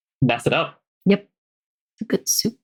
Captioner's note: laughs